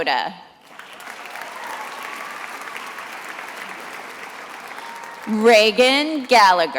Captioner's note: attendees applauding